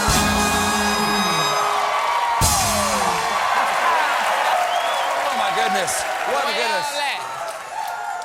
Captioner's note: cheers and applause